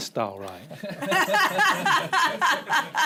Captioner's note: laughter